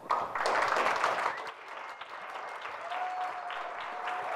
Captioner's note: audience applauds